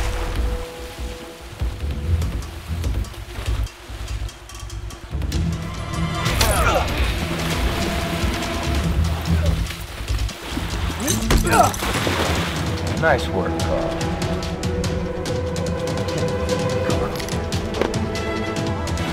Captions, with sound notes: Ugh! (grunting) - Nice work.